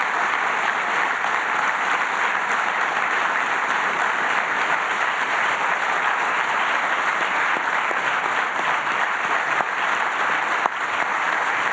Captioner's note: applause